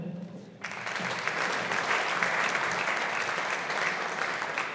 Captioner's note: audience applauding